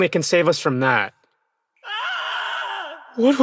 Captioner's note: Tzi Chuan screams in the distance